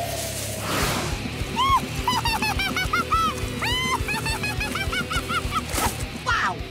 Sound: laughing

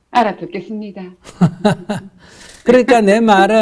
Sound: /Questioner Laughter

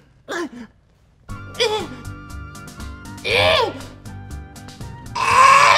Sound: grunts; jaunty music

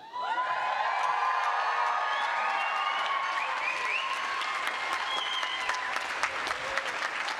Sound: cheering

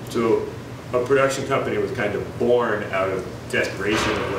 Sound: none

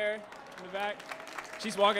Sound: audience applauds

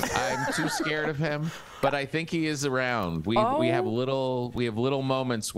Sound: laughter

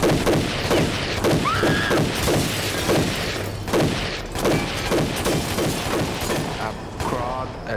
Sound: gun shots; screaming

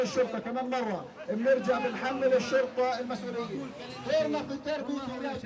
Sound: protestor speaks foreign language

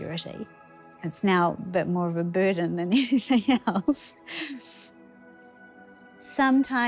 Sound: chuckles

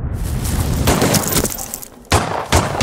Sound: gunshots

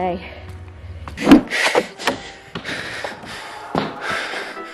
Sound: heavy breathing

